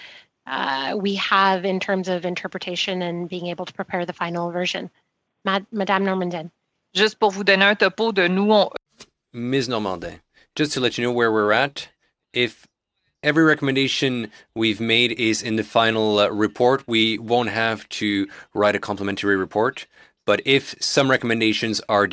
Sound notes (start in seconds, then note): 13.9 speaking in French